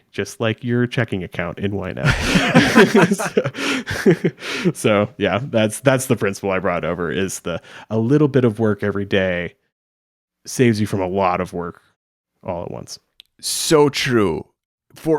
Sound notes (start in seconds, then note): 2.0 both laughing